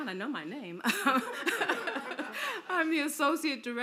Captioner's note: laughter